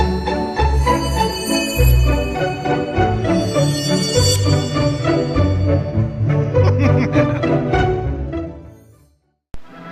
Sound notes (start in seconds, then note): 0.0 instrumental music; 5.1 magic glittering